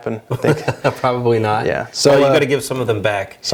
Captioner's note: laughs